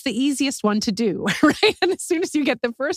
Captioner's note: laugh